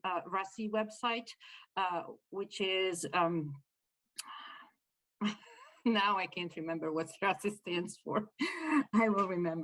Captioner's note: laughter